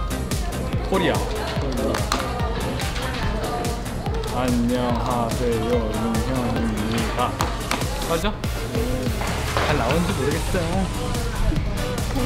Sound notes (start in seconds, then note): 6.8 clap